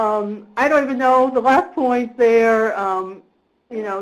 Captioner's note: voiceover